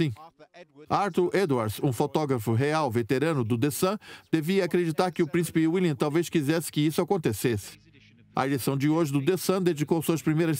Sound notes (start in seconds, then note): 0.2 voiceover; 7.2 voiceover